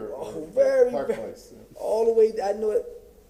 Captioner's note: ~distortion~